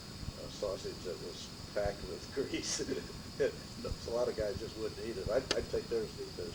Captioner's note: laughter